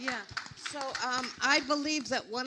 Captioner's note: audience applauds